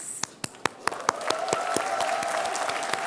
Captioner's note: applause